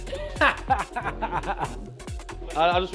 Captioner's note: laughing